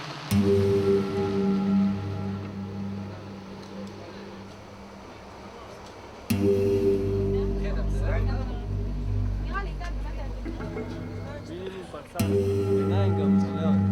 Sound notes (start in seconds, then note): 9.9 French spoken audio